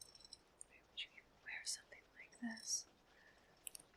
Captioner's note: whispers